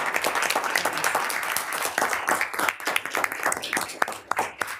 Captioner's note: group applauds